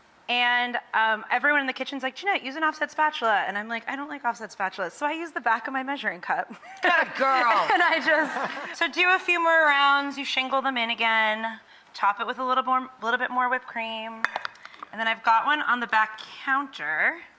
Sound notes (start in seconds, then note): 6.6 chuckles; 6.7 laughs